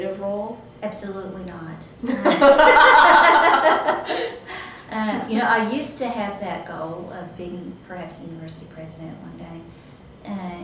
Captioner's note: laughter